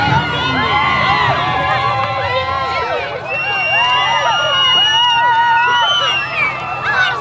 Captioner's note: cheering crowd